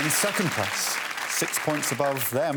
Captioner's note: applause